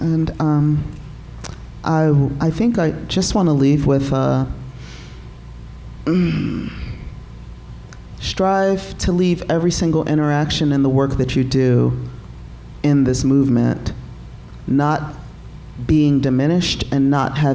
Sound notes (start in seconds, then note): 6.0 grunting